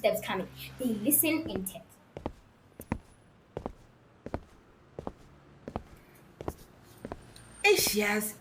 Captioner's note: footsteps